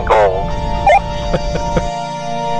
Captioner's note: laughs